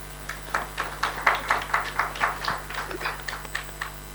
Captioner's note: attendees applauding